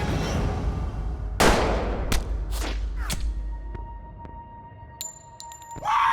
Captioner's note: gunshot; cheering